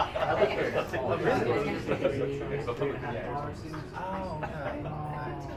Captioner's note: speaking in foreign language